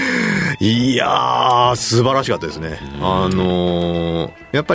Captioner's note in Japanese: 息をのむ音